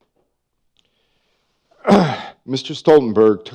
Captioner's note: clears throat